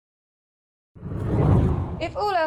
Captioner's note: hard whooshing